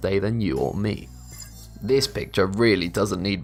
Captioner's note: futuristic ringing